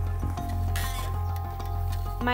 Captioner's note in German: Knarren